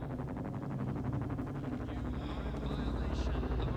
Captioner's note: helicopter approaching